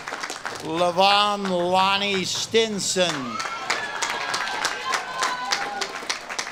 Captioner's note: audience claps and cheers